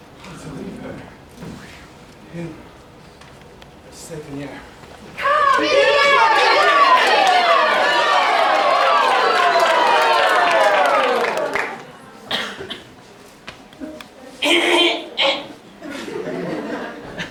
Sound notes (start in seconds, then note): 9.0 cheers for Montfluery; 14.4 clears throat